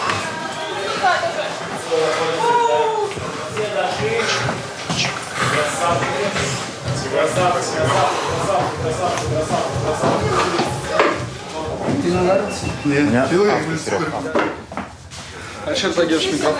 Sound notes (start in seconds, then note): 0.2 chatter; 12.2 chatter